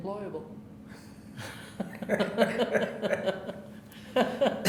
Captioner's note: laughing